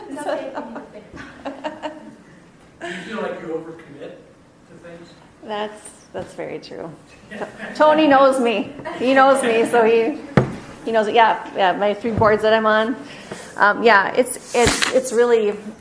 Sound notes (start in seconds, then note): 0.0 laughs; 7.1 laughing